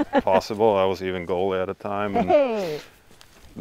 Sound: laughing

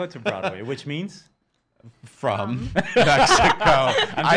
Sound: laughing

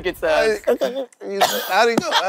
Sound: squirrel noise; laughter

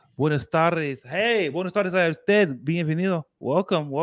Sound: speaking spanish

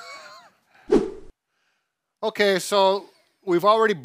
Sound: both laughing

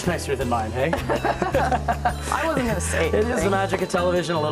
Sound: laughter

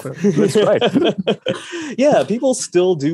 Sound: both laugh

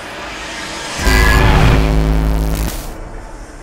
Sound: static

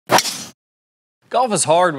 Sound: golf club hitting

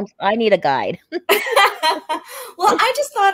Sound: both laughing

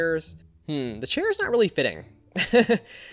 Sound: laughs

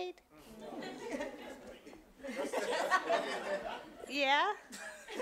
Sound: audience laughing

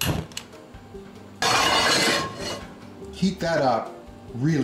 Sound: pan clanging

